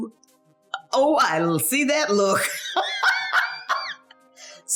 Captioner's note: laughing